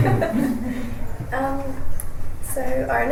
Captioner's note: laughs